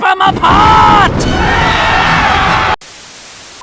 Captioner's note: mob cheers